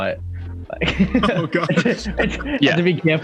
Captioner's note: laughs